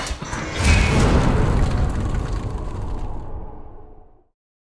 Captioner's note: impact